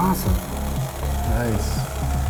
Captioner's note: toy ticking